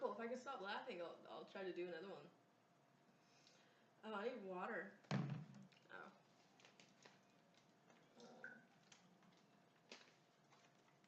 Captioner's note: breath